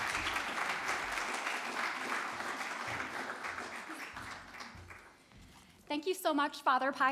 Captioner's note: applause